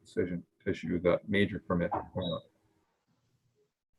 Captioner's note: voice muffling